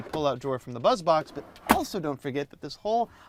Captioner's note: box thuds